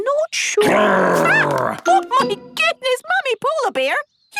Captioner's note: loud growl